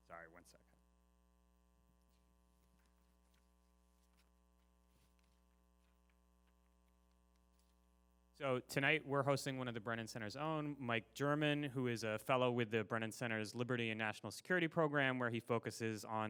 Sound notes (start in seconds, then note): 2.3 papers shuffling